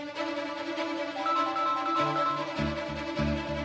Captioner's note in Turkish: telefon çalar